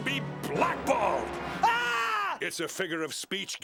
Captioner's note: screams